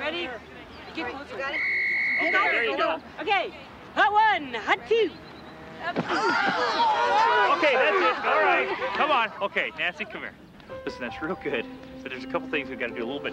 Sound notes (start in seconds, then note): 2.1 women yelling